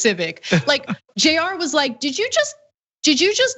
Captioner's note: laugh